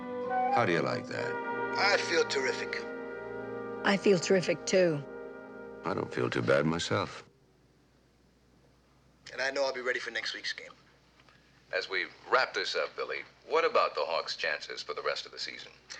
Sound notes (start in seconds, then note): none